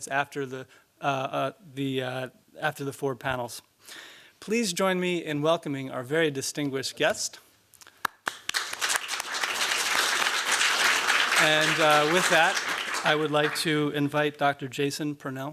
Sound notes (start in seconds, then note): 8.0 applause